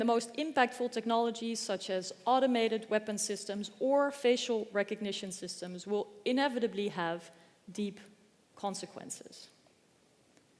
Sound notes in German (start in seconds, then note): none